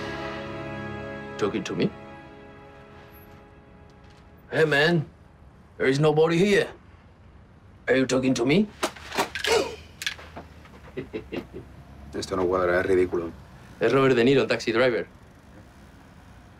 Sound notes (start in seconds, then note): 12.4 laughs slightly